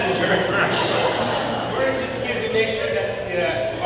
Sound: audience laughing

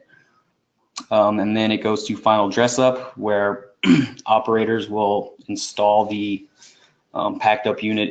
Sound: cough

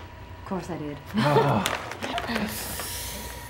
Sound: laughs

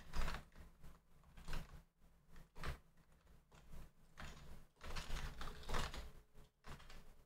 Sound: typing

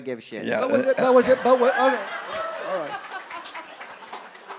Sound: audience laughing

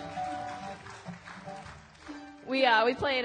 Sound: cheering

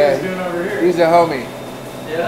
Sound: voiceover

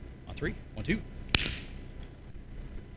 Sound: claps

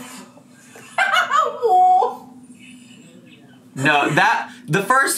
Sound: laughs

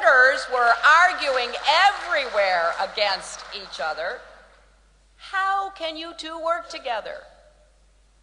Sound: applause

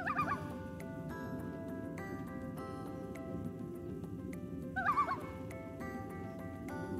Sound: Loon tremolo in the distance

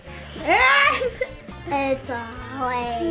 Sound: laughs

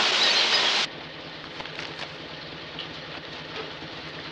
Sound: engine idling

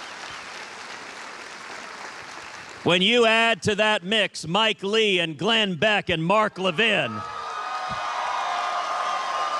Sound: cheers and applause

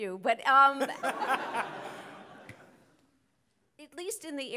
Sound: audience laughing

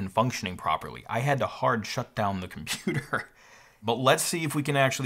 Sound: laughs

